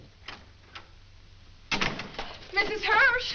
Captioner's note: door opens, closes